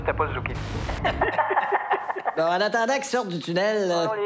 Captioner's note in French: Rires